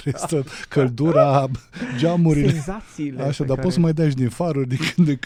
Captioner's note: laughter